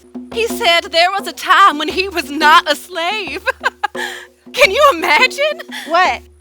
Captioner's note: laughter